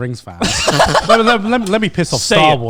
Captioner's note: laughs